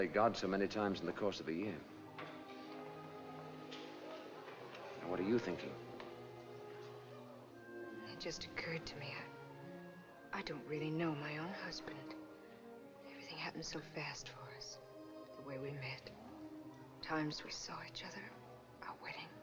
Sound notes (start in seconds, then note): none